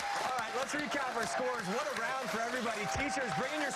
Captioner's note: cheers and applause